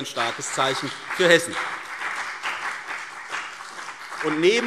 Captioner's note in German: Beifall CDU und BÜNDNIS 90/DIE GRÜNEN